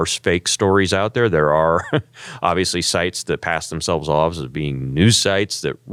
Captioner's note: laugh